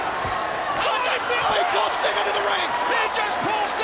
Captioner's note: commentators shouting